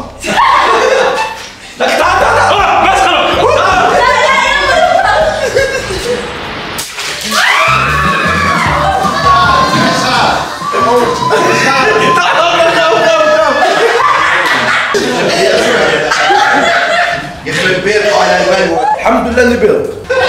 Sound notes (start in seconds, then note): 0.2 laughing; 6.7 balloon pops; 7.2 screaming